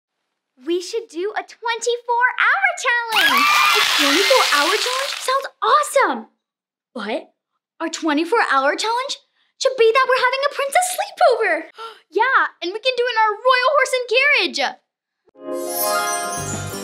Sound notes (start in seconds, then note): 3.1 applause and cheering; 11.9 gasps; 15.5 upbeat playful music; 15.5 whimsical chimes